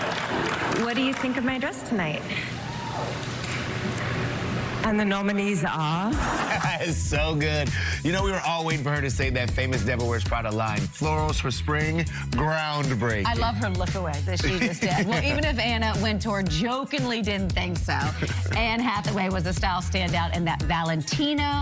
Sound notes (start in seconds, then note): 6.1 laughter